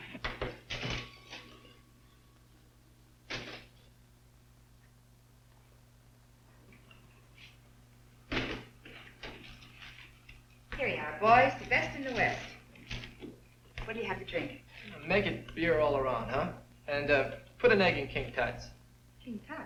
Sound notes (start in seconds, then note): 0.1 ball banging